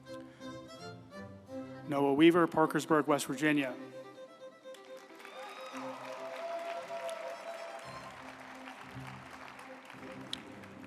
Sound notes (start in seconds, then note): 4.2 uplifting music; 4.7 group applauding